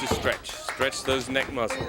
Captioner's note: crowd chatter